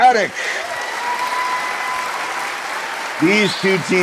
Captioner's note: cheers